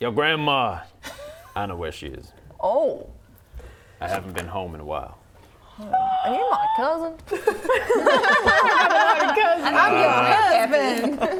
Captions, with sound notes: Your grandma, I know where she is Oh I haven't been home in a while *gasp* Are you my cousin? *laughing* I'm your husband